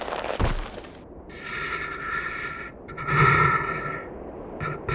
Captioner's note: Smoke trembled breath, anxious